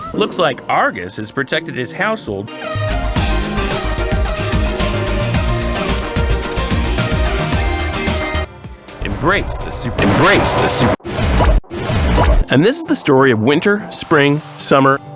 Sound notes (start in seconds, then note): 10.4 loud and distorted; 10.9 whooshing noises